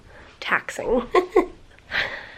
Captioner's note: chuckles